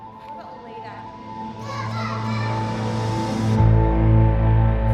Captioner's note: voices fade